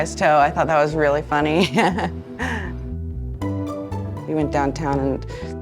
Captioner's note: laughing